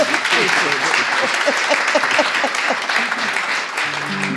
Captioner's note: applause